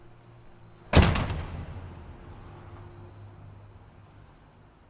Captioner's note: distant slamming